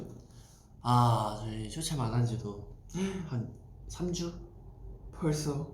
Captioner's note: gasp